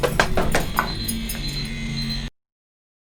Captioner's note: beeping